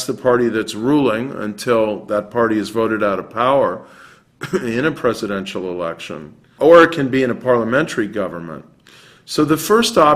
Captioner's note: cough